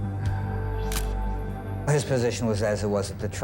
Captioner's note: camera shutter click